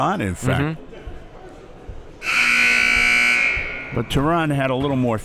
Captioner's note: buzzer sounding